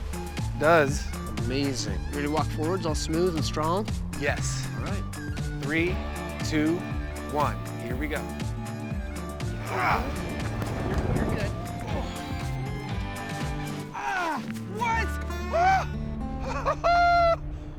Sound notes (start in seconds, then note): 9.6 Baratunde grunting; 14.3 grunts; 15.5 Baratunde yells